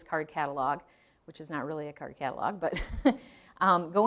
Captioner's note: chuckling